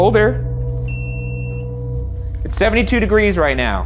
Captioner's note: beeping